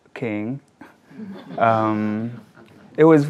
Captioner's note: audience laughs